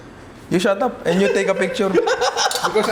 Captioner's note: laughs